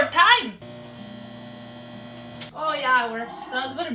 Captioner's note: microwave buzzes